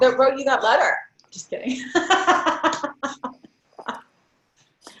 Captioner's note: laughs